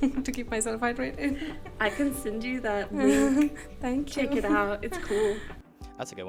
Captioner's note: laughter